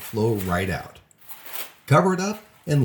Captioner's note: foil rustling